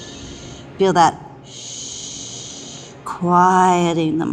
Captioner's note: exhales